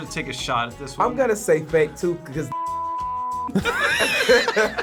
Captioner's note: beep; both laugh